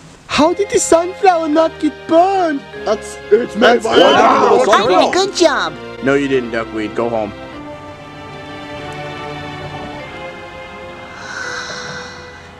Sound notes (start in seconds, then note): 3.8 the Zombies all begin yelling at once